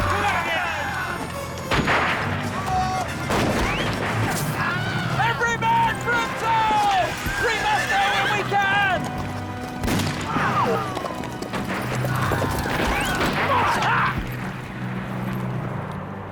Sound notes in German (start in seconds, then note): 9.7 Waffen schießen; 13.5 Mann schreit